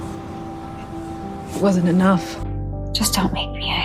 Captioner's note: voiceover